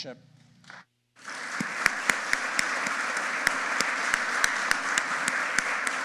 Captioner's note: audience applauding